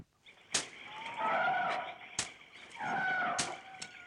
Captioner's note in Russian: крики лесных птиц